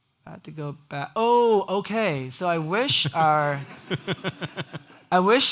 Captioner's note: everyone laughs